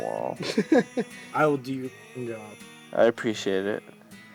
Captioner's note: laughing